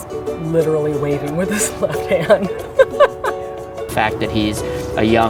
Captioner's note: laughter